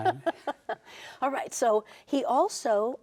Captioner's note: laughing